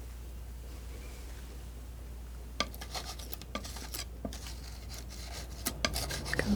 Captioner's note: scratching